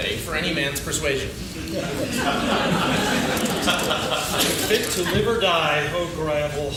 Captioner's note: laughing